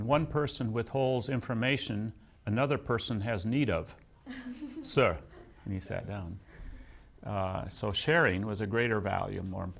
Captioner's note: laughs